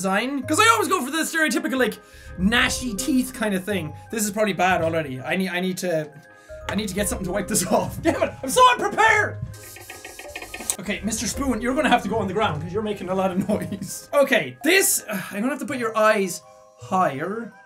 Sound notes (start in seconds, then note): 9.7 spoopy Spoon Rattle; 15.0 sighs